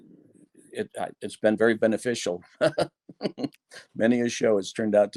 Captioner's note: laughs